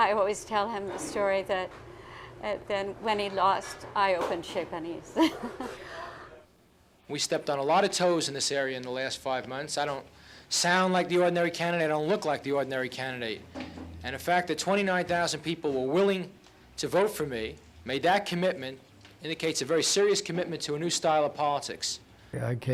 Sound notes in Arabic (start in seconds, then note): 5.1 يضحك